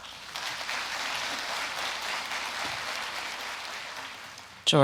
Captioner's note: audience applauding